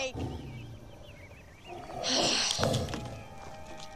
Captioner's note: Sage growling